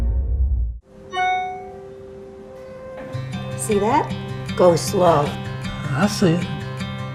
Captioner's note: email alert tone